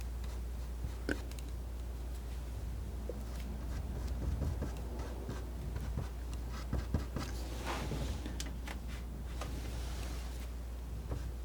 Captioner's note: scratching